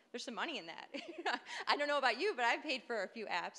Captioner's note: laughing